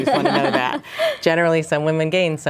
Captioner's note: laughter